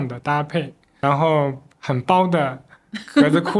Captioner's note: laughs